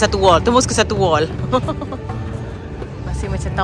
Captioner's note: laugh